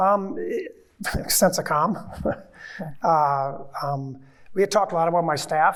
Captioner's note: chuckles